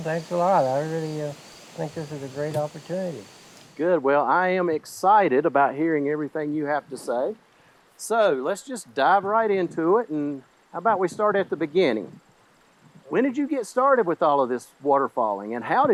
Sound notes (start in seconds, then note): none